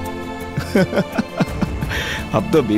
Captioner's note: Laughs